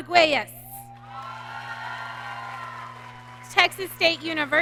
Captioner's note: audience cheering